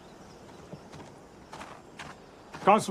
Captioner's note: footsteps approach